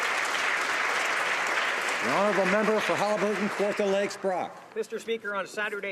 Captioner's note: some Applause